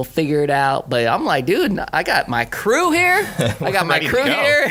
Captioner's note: laughing